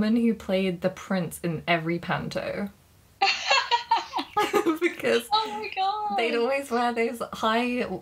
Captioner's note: laughing